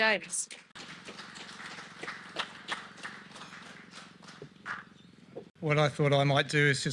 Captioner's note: audience applause